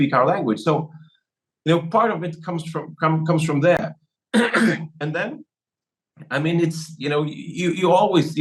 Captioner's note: cough